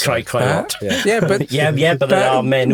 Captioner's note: chuckling